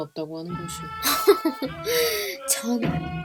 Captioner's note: laughs